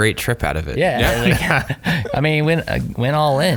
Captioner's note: laughing